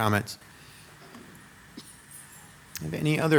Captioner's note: metal jingling